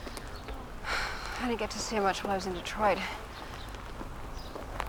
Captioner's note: sighs